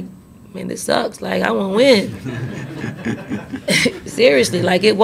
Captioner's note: reporters laugh